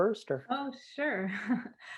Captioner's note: laughter